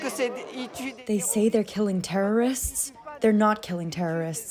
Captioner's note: through translator